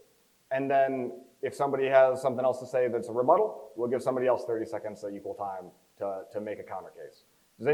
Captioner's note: none